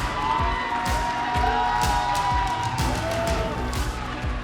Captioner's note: crowd cheers